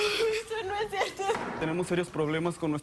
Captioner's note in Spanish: Sollozos